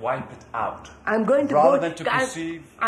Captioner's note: none